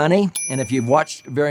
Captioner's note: bell chimes